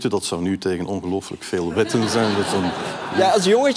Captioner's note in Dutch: gelach